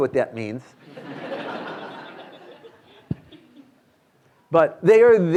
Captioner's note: students laughing